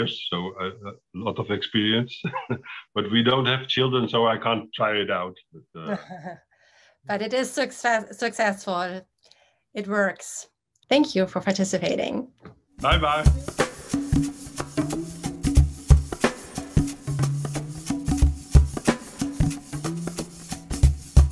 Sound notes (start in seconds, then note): 5.7 laughs; 12.8 upbeat music